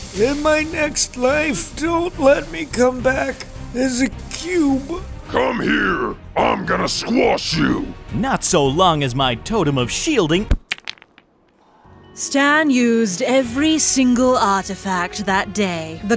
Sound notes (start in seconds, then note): 10.5 rocks crumble